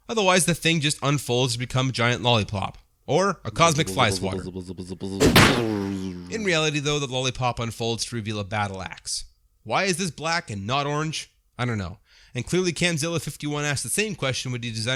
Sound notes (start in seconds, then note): 4.2 buzz-a-buzz-a-buzz-a-buzz; 5.2 smack